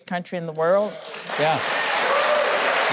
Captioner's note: audience claps